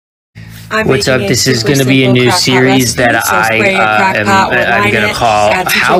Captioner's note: loudly talking over the original tiktok